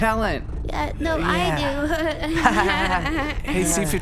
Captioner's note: Fluff and Poof laugh awkwardly